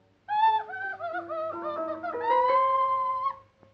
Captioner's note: yelling